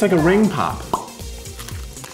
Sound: popping noise

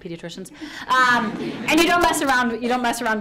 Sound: audience laughs

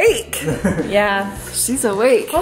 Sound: laughs

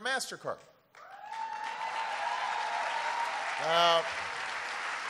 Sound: applause

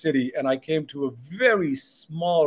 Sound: none

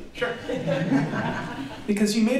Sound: laughter

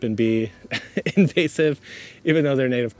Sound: laughs

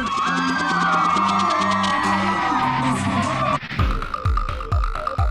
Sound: cheering; rock music; upbeat techno music

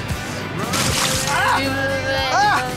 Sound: liquid splashes

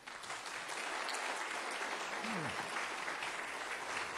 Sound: audience applauding

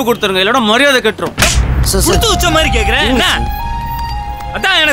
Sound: slaps

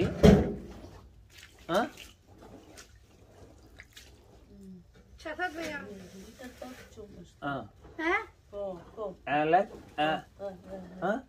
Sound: speaking in foreign language

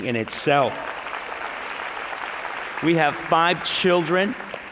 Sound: applause

